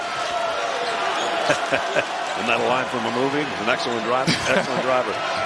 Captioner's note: laughing